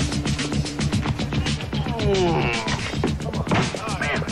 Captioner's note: groans